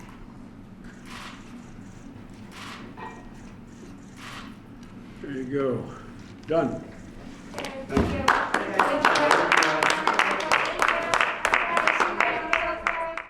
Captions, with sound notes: There you go. Done. Thank you. (Applause.)